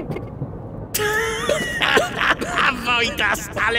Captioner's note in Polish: śmiech Wojtasa